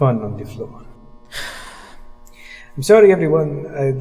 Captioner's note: cast sighs